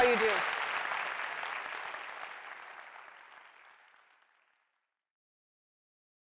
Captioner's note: applause